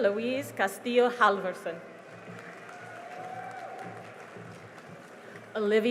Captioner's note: cheering and applause